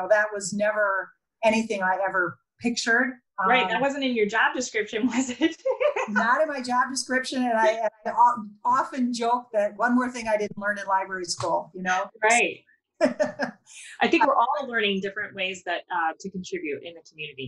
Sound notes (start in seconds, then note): 5.8 laughs; 13.0 laughs